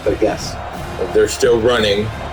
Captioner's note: crowd Noises